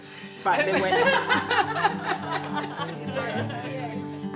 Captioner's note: all laughing